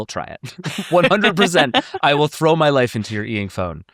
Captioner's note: laughs